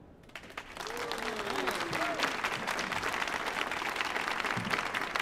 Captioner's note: audience cheering and applauding